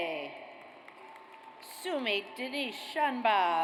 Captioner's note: audience applauds